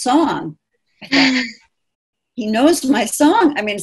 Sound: exclaims

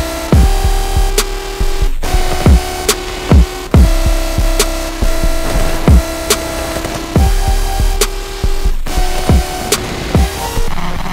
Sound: machine War Noises

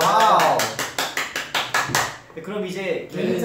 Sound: claps

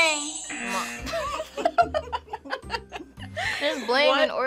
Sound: buzzer; buzzer rings; both laugh

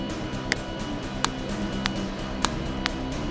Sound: snapping

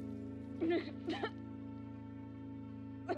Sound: crying, coughing

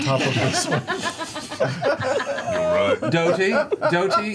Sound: all laugh

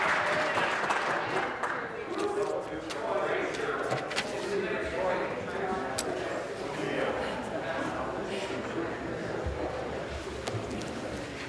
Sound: applause

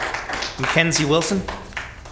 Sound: applause

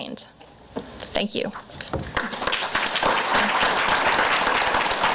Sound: crowd applause

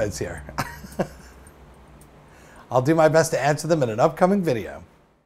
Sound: laughs

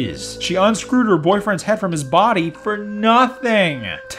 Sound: none

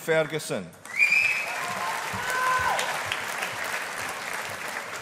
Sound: audience applauding

